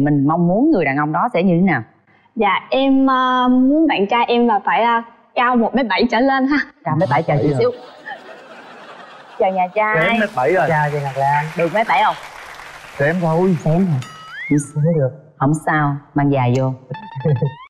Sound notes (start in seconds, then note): 12.1 claps